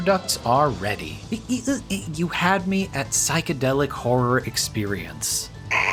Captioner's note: assorted mouth noises